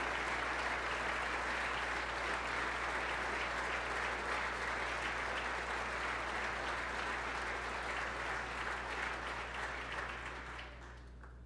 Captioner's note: applause